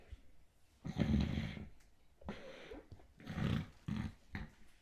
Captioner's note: snoring